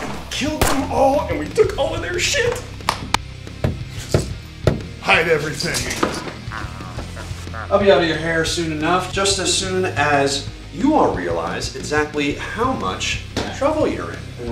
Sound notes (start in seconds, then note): 4.6 knock knock knock; 6.4 swallowing